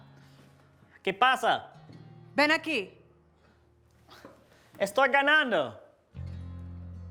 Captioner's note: they converse in Spanish